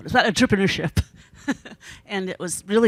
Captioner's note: laughs